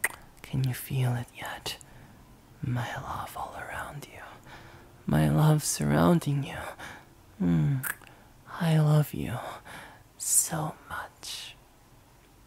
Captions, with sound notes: Can you feel it yet? My love all around you, my love surrounding you. (kiss) Mm, I love you. So much.